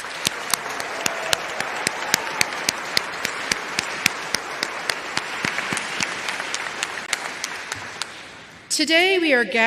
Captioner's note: applause